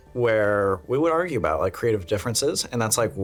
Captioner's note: none